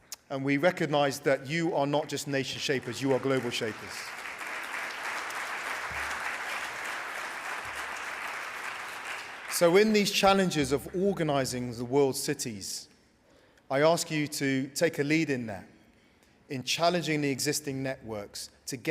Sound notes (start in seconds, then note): 4.3 applause